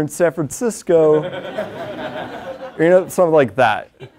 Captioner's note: laugh